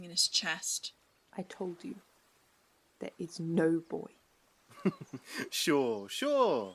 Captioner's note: Lucius laughs